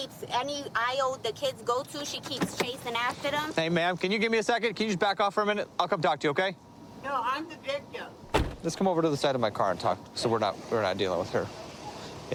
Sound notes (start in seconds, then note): 8.2 car door closes